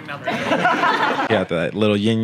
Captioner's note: laughing